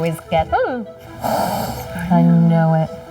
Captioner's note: Joey snarling